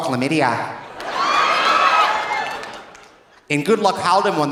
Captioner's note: audience laughing; audience cheering